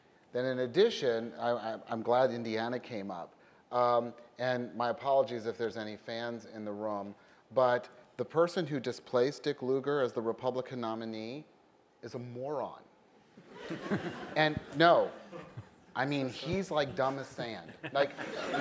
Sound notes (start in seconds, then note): 14.3 laughter